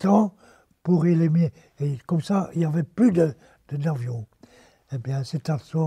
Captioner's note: German